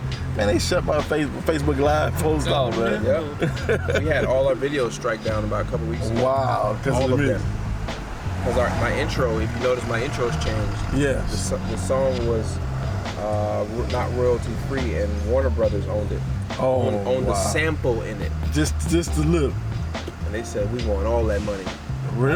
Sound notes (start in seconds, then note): 2.0 laughs